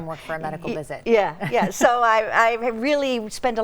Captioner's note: chuckling